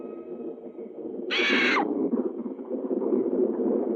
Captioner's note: bird screeching